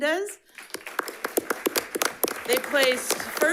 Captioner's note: audience applauds